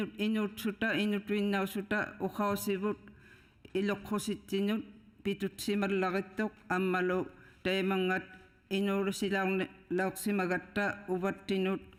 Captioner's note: speaking inuktitut